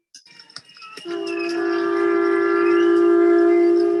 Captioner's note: cheering, horns honking